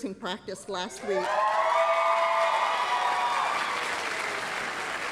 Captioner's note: applause, cheering